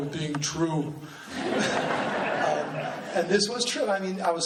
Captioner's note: laughing